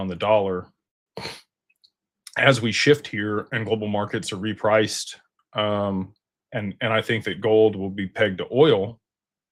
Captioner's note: snorts